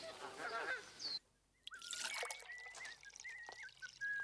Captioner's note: soldier whistling